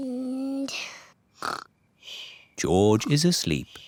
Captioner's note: snores